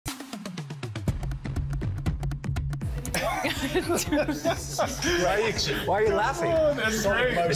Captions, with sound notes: (upbeat drum music) - (laughs) - Why are you laughing?